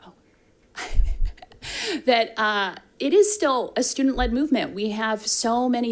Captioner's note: chuckles